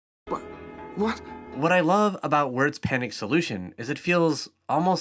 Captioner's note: voiceover